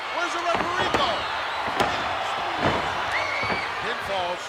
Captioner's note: cage clicks; hand thudding